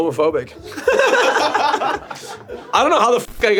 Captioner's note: laughing